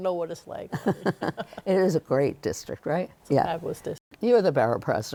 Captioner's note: chuckles